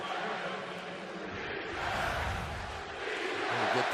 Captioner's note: crowd chanting, "defense"